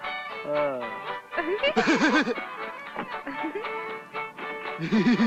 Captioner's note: both giggling